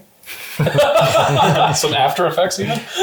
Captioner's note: laughs